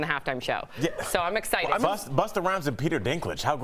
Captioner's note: laughter